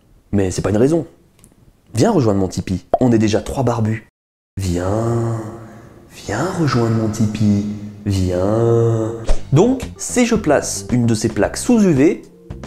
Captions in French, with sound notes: Mais c'est pas une raison ! Viens rejoindre mon Tipeee, on est déjà 3 barbus ! *voix envoûtante* Viens ! Viens rejoindre mon Tipeee ! Viens ! Donc, si je place une de ces plaques sous UV,